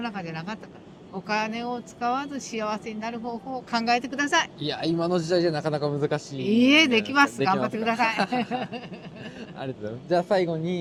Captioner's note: laughs